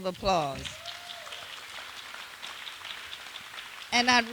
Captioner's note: applause